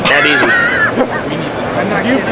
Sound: laughs

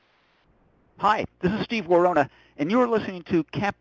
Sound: voiceover

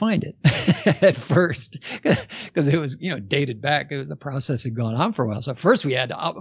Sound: laughs

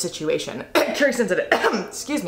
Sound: coughs

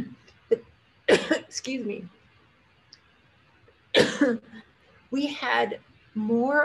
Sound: coughs

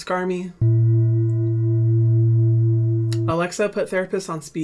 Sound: gong chiming

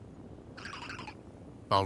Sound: Baltoy chirps

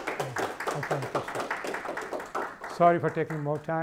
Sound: applause

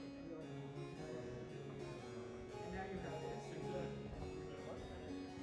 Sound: musicians chattering

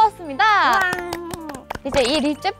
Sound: applause

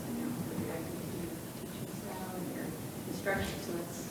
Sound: faintly speaks

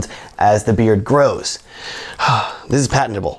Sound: sighs

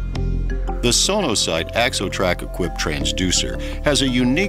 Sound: voiceover

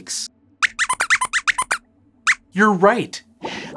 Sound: squeaks squeaks

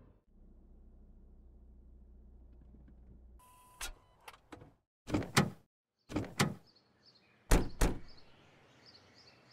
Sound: shudders

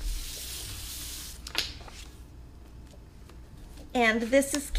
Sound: papers shuffling

